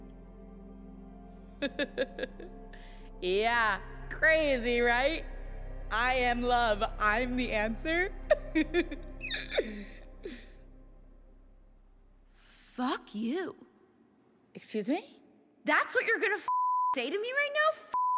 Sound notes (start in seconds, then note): 1.6 laughs; 8.2 giggles